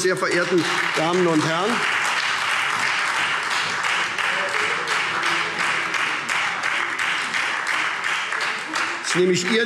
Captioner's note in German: Heiterkeit und Beifall SPD und Freie Demokraten